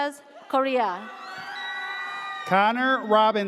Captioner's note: audience cheers